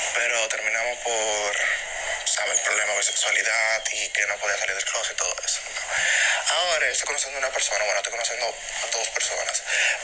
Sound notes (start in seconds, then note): none